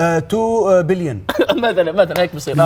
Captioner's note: laughs